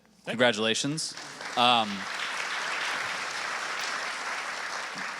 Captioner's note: audience applauding